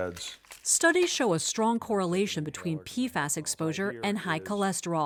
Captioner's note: voice-over